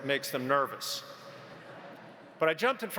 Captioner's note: audience laughs